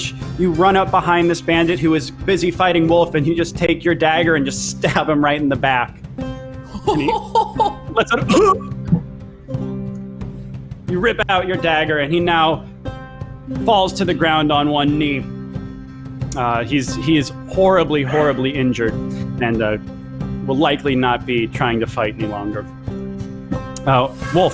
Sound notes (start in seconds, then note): 6.7 laughs; 8.1 groans